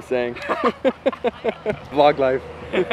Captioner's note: laughter